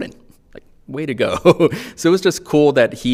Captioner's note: chuckling